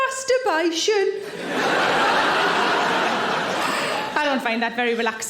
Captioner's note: audience laughing